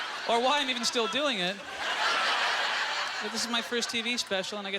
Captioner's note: audience laughter